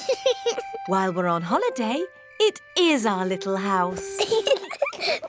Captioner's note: george laughs; both laugh